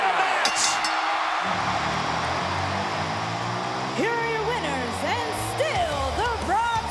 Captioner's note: applause